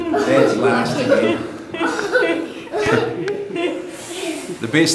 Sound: continued laughter

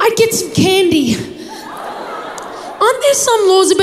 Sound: crowd laughs

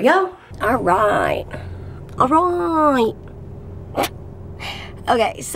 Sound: laughs

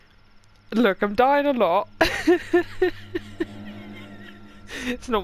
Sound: laughing

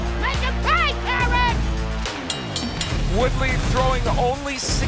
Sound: bell dings

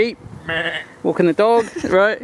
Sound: bleating

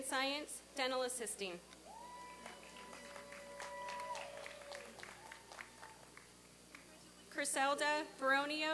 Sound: applause and cheering

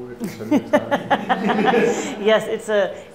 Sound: laughing

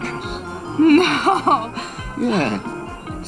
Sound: chuckles

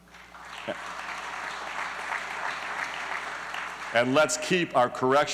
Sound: applause

